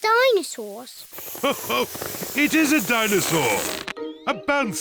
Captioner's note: laughs